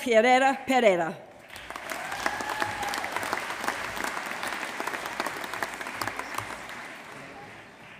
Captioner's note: applause